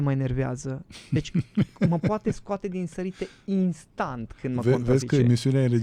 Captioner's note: laughter